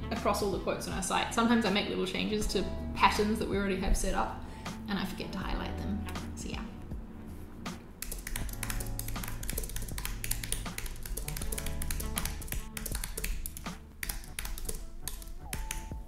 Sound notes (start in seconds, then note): 8.0 keyboard clicking; 8.1 relaxing music